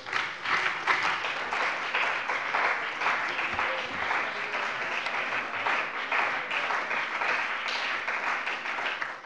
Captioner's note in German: Beifall bei dem BÜNDNIS 90/DIE GRÜNEN und der CDU